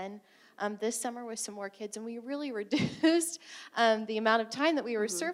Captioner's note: chuckling